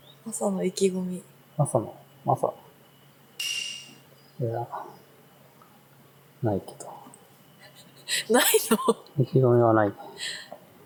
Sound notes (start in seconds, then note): 7.6 laughs